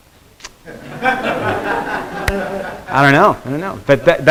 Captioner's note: students laughing